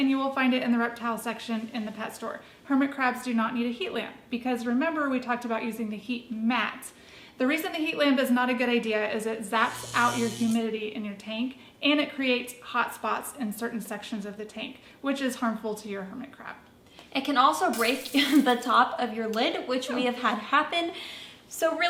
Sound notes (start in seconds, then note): 9.5 zapping noises; 17.7 glass breaking sound